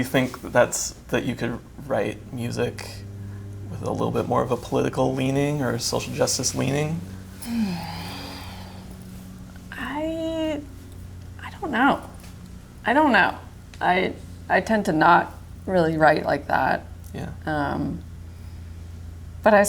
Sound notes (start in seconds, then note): 7.4 sighs